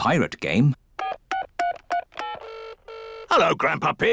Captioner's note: line ringing; dialing phone